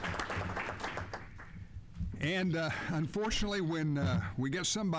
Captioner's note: applause